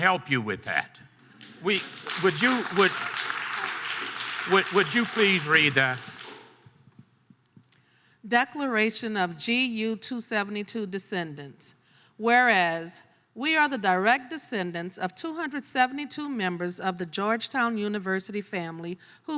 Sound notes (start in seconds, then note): 1.3 audience applause